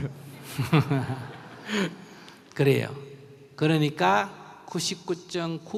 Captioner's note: /Audience Laughter